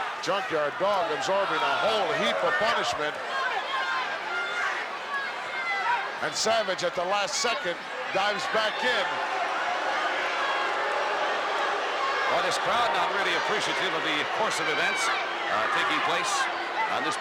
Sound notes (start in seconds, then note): 9.5 crowd boos